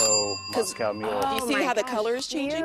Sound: ding

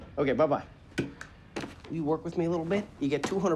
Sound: phone hanging up

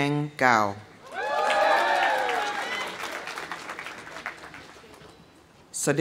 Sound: audience cheering; audience applauding

